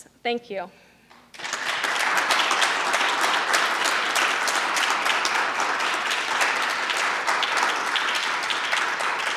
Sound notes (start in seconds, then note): 1.3 audience applauding